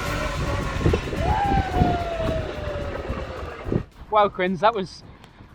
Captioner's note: dramatic music continues; whooping